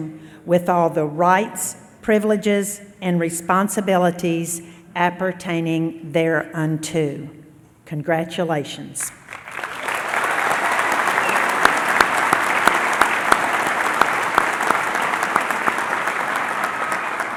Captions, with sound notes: Science in Nursing, with all the rights, privileges, and responsibilities appertaining th ereunto thereunto. Congratulations. [ Applause ]